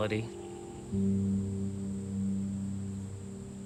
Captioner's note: insects chirping; gentle music